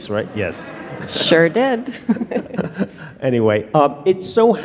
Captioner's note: laughs